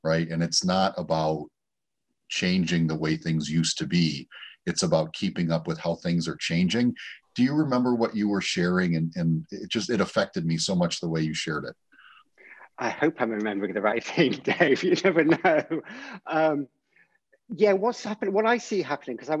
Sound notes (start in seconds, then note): 14.1 laughs